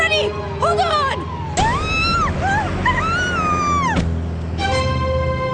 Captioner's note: screaming